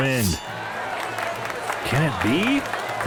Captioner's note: crowd Cheering